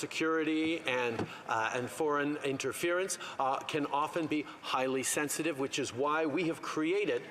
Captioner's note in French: voix de l'interprète